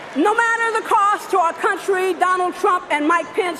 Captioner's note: cheering and applause